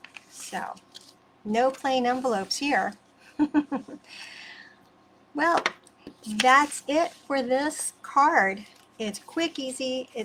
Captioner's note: chuckles